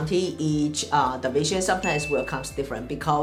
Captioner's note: bell chimes